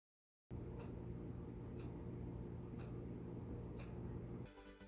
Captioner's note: clock ticking